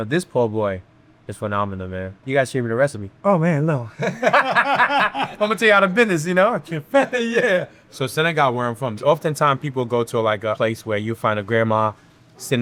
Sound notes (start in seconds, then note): 4.0 both laughing